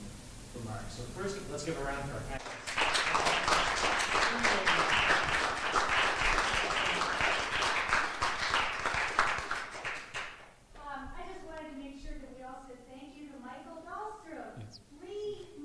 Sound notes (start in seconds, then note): 2.3 applause; 9.5 woman makes announcement